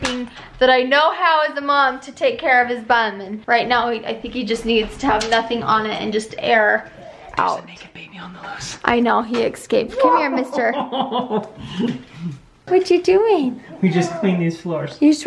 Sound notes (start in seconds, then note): 9.9 laughs